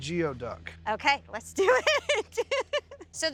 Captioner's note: laughing